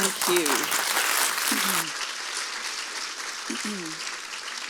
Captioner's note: audience applauds